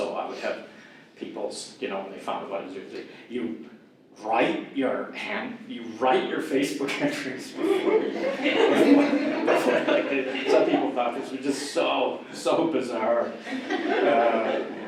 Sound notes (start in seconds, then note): 7.5 audience laughter; 13.2 more audience laughter